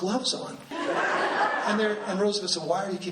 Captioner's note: laughing